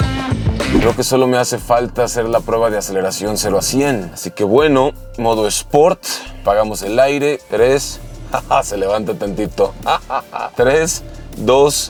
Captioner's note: laughter